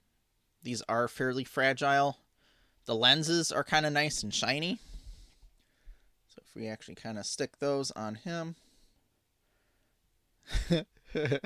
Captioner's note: laughing